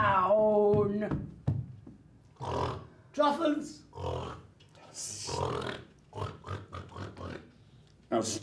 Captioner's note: starts grunting like a pig